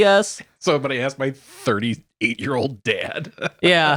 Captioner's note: laughing